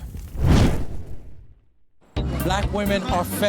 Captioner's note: rapid swishing